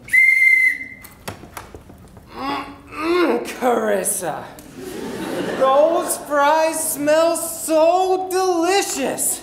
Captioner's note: whistle